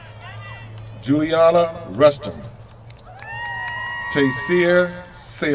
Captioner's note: cheers from crowd